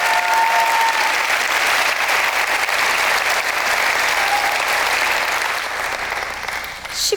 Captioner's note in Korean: 박수와 환호